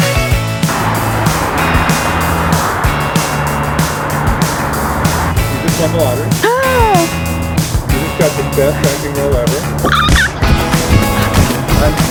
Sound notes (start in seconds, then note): 0.8 vehicles whirring; 6.2 exclaiming; 9.8 exclaiming